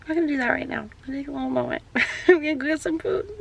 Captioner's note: laughs